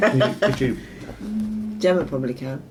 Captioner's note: laughing